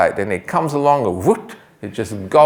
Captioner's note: imitates gulping